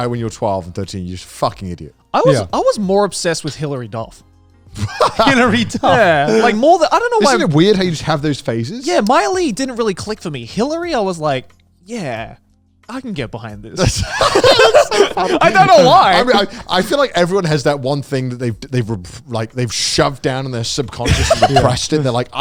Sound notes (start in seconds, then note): 4.8 laughing; 13.8 all laughing